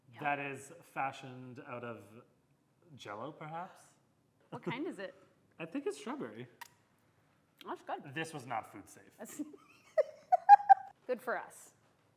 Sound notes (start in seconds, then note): 9.2 laughs